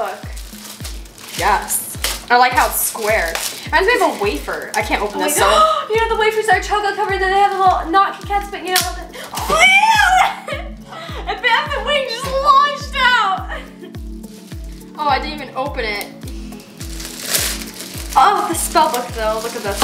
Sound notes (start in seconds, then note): 9.0 gasps; 13.3 laughs